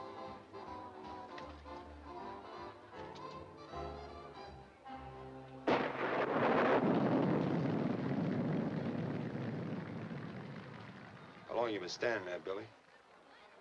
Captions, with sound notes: (lively music continues) (thunder cracking) - How long you been standing there, Billy?